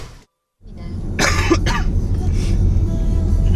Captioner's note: sound of a car running